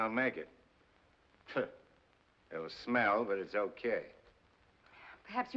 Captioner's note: scoffs